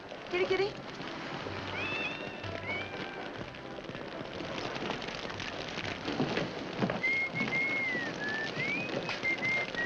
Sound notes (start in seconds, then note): 1.7 cat meows; 3.6 fire crackling; 7.0 Judge Crenshaw whistles